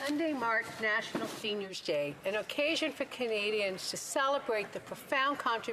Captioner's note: speaking French